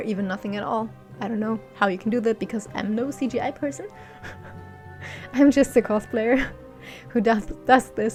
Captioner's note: laughs